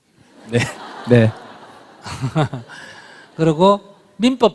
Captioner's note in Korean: 청중 웃음